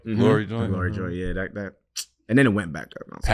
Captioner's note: smacks lips